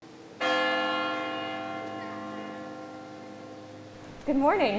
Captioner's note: church bell chiming